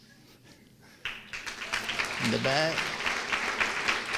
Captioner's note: applause